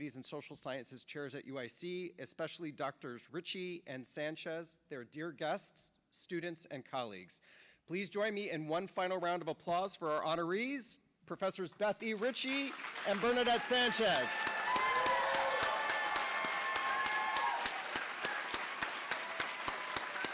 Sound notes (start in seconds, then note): 4.4 cheers and applause